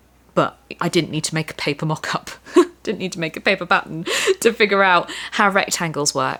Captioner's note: laughter